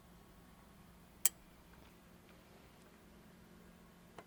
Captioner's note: click